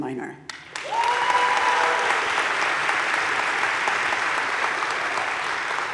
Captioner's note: audience cheering and applauding